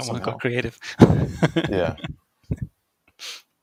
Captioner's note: laughs